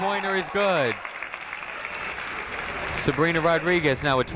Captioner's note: crowd clapping